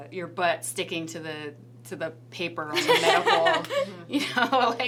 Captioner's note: laughs